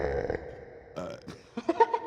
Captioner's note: burps